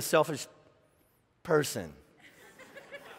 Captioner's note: laughing